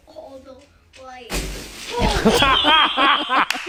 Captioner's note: branches rustling; laughing